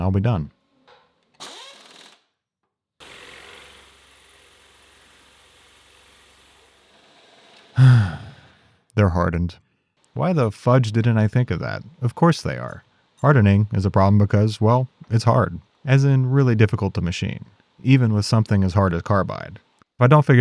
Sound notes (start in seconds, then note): 3.0 machinery whirring; 7.7 sighing